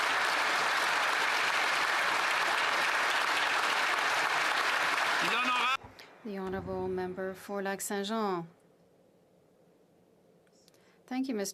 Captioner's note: applause